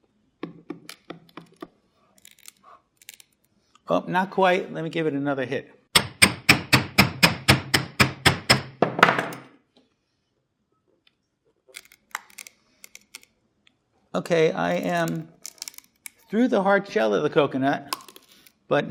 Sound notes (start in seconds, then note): 2.1 strained cracking; 5.9 hammer banging; 11.9 light cracking